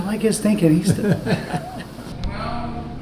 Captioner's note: Richard laughing